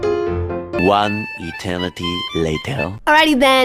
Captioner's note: french Accent